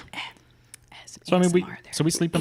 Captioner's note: murmurs